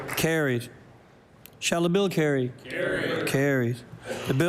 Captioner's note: some Applause